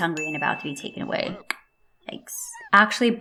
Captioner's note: mouth click